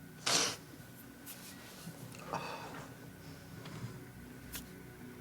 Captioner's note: Lance sniffs and exhales